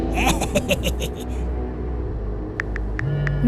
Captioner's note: Carlin laughs